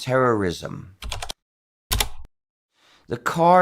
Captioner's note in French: bruit de clavier